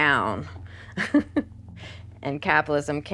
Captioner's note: laughs nervously